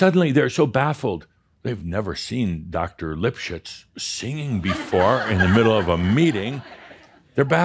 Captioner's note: laughter